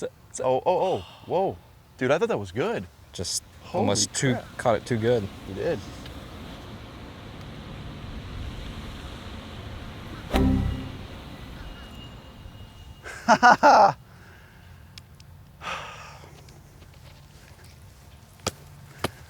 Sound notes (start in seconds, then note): 13.6 laughs; 15.7 loud Sigh